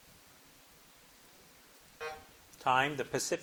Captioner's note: buzzer buzzing